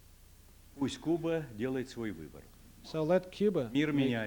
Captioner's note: non-english speech